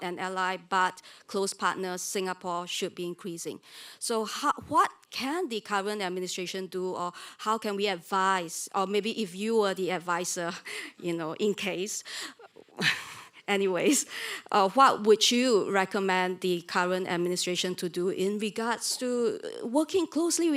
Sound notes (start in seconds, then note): 12.1 laughs